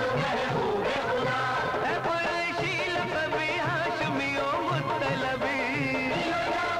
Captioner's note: Speaking Urdu